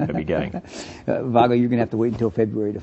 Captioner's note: chuckles